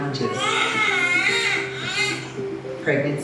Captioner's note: baby cries